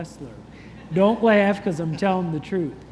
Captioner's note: congregation chuckles